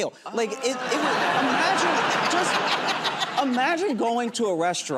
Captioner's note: laughter